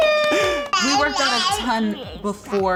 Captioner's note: cheering and clapping